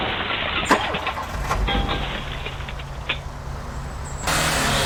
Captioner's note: glass crunching; engine rumbling